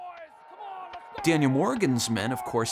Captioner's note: men yelling